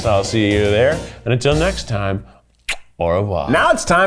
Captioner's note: smacks lips